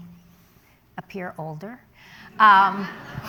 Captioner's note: laughter